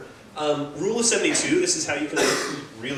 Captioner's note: cough